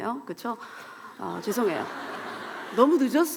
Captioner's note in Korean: 웃음